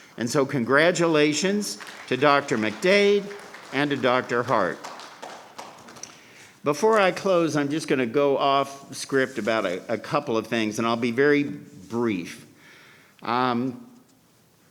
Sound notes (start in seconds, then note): 5.0 crowd clapping